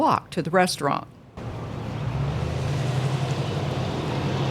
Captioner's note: truck rumbling